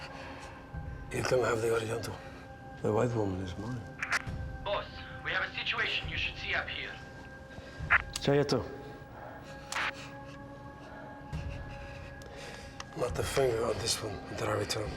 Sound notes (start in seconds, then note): 8.2 speaking Slavic language